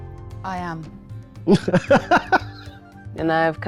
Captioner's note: laughing